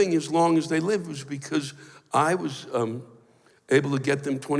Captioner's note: none